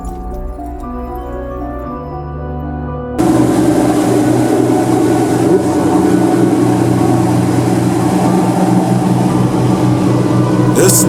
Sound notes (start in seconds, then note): 0.2 soft piano music; 3.2 boat motor revving